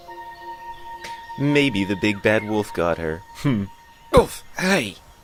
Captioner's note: chuckles smugly